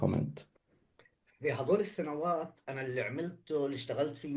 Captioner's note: speaking arabic